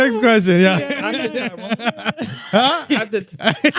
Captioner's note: laughing